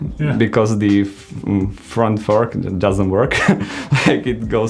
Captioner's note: laughs